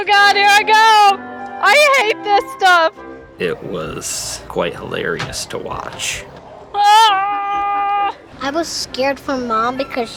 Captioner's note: screaming